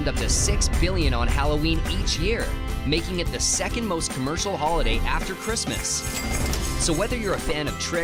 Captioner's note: coins